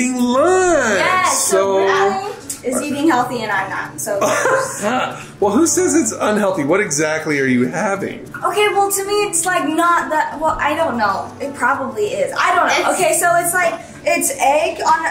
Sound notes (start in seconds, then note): 4.2 laughing